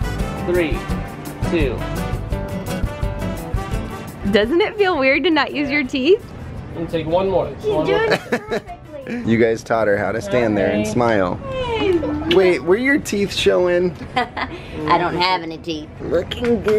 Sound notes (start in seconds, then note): 7.9 laughs; 14.0 laughs